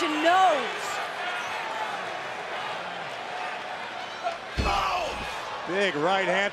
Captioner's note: applause